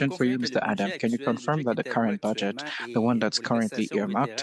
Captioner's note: speaking French